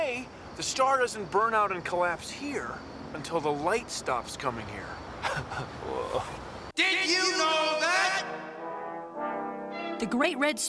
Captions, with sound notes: SO IN A WAY, THE STAR ISN'T BURNED OUT AND COLLAPSED HERE UNTIL THE LIGHT STOPS COMING HERE. [ CHUCKLES ] WHOA.